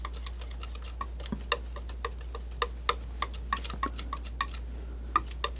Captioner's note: scratching